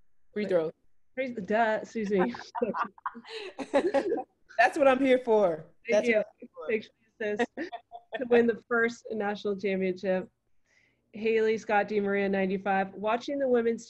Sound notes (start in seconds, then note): 2.1 laugher; 4.9 laughing